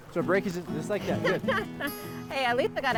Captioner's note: laughs